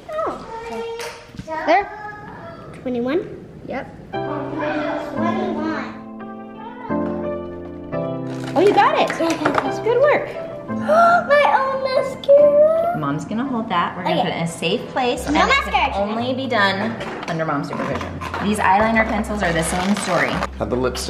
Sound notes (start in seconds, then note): 4.4 happy music; 10.8 gasps